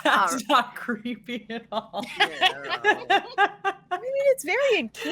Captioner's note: laughs